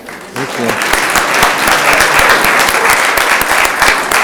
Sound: room applauds

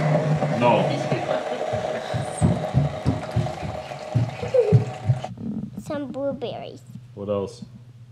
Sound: laughter

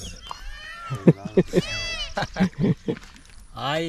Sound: laughing

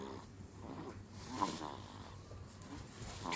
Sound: baby snooring

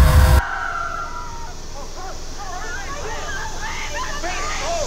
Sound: Rosemary screaming; actors yelling

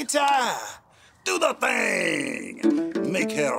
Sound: changing voice

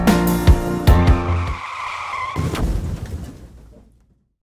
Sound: car crashes

